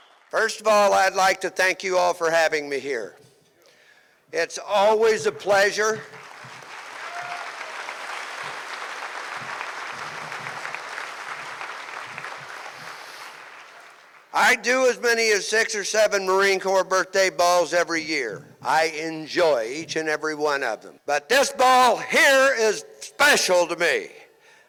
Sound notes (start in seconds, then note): 0.0 audience Cheers; 5.8 audience Claps